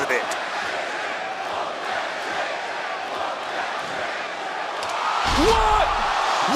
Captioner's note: crowd chants